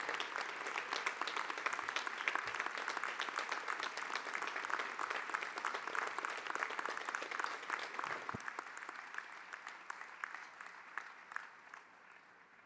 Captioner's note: applause